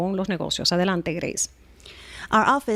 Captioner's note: Hablando ingl\s